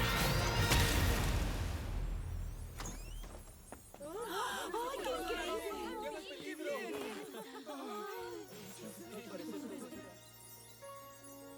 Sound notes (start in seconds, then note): 0.0 explosion; 4.0 excited shouts